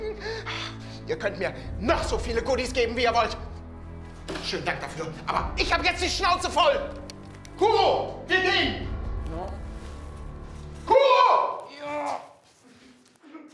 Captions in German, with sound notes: Ha, ihr könnt mir noch so viele Goodies geben, wie ihr wollt. Schönen Dank dafür, aber ich hab jetzt die Schnauze voll! Kuro, wir gehen. - (gedämpft:) Ja. (Düstere Musik) Kuro! - Ja.